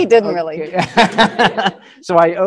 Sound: laughing

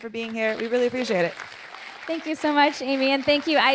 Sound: audience applauding

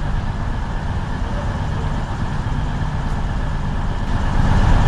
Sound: train humming continues

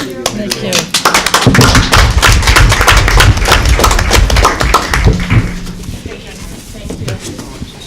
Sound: applause

